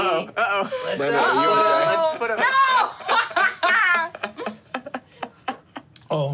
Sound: laughs

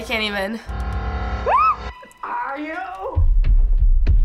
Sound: ominous music; squeals; stomping

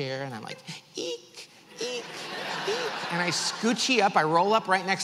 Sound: audience laughs

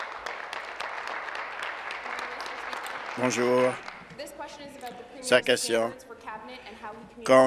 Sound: applause

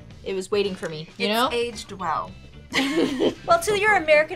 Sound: laughs

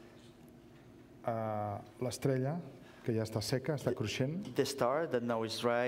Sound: speaking catalan

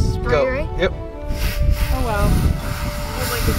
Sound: air spraying

